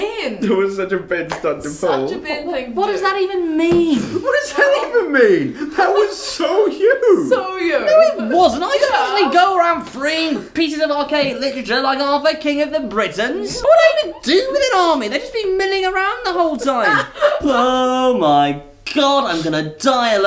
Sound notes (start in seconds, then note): 16.7 laughs